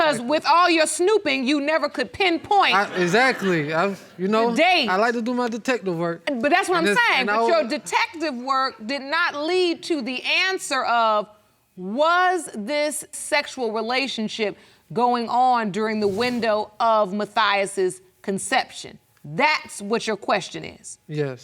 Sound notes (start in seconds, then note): 2.7 audience laughs